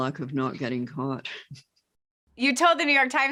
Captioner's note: chuckles